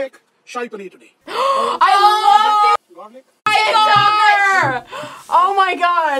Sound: gasps

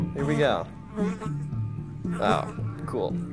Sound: buzzing sound

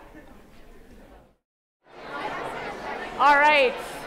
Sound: chattering

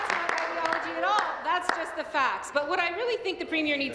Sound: applause

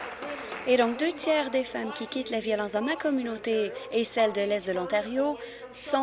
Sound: applause

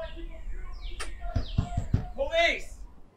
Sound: door bangs

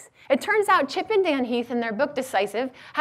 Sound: none

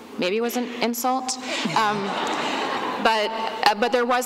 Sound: laughter

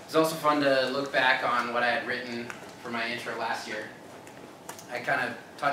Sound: none

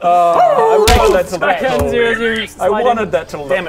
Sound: awooooo...boosch; boof

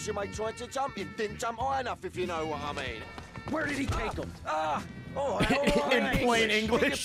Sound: laughs

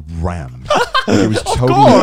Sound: all laughing

